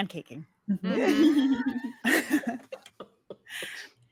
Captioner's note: cast laughing